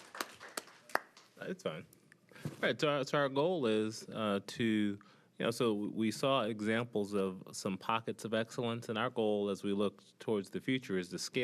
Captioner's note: applause